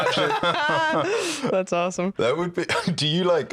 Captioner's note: laughs